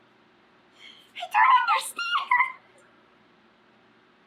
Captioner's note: laughs